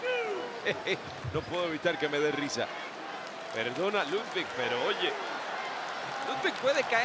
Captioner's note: laugh